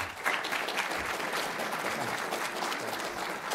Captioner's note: applause